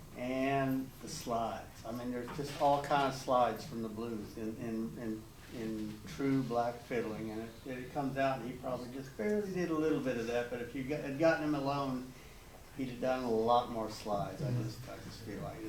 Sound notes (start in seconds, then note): none